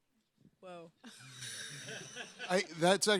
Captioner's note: laughs